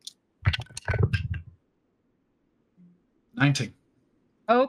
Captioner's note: dice clank